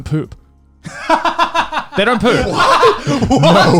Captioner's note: laughs